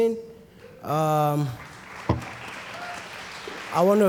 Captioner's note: applause